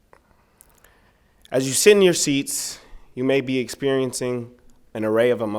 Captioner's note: none